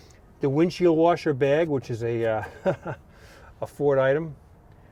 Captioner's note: chuckles